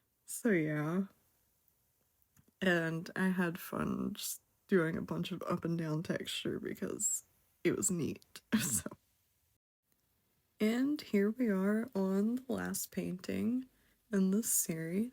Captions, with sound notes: So yeah And I had fun doing just a bunch of up and down textures because it was neat (haha) so And here we are on the last painting in this series